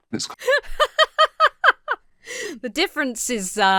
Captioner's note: laughing